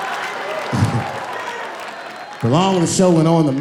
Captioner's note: laughing